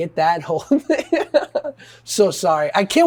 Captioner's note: Josh laughing